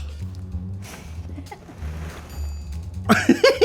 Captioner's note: giggles; chuckles